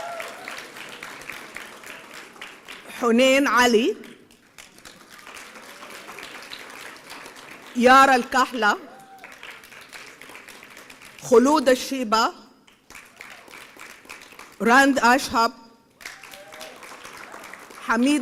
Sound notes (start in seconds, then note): 0.2 applause; 6.0 applause; 10.0 applause